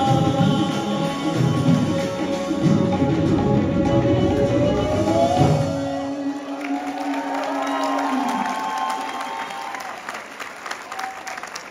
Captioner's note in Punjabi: ਤਾੜੀਆਂ